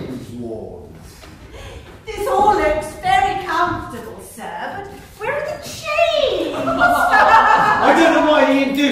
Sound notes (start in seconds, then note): 6.3 visitors cackle